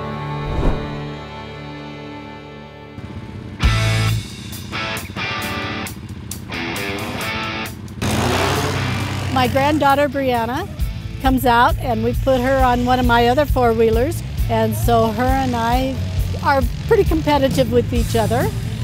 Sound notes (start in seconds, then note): 0.0 upbeat instrumental music; 0.3 air whooshes; 2.7 engines humming; 3.6 upbeat rock music; 7.7 ATV engines roaring